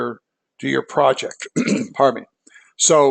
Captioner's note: cough